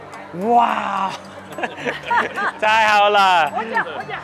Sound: chuckles

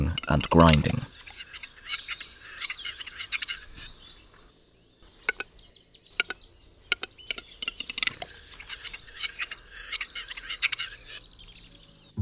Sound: sounds of nature; music, sounds of nature

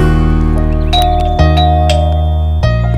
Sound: doorbell ringing

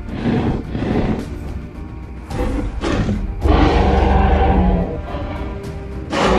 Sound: growling; roaring

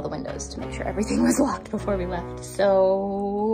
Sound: chuckles

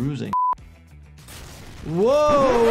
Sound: gunshot cracks

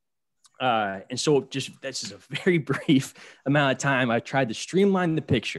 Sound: laughter

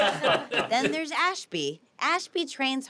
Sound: family laughs

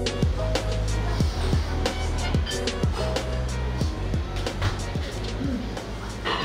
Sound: ambient restaurant sounds

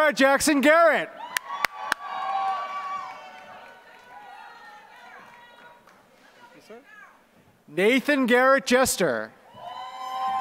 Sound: applause; applause

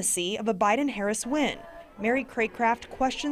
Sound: crowd chanting

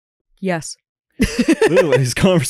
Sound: laughs

